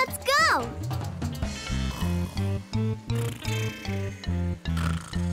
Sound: snoring

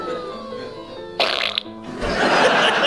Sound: splat; laughing

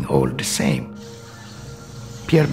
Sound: forest sounds

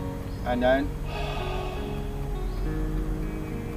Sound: exhales

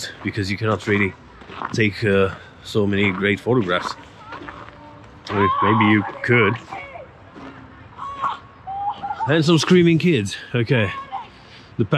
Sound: screams

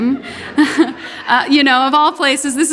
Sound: audience laughing

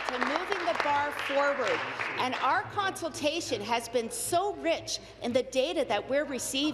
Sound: applause

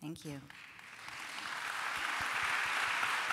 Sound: applause

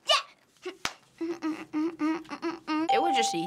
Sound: sassy humming

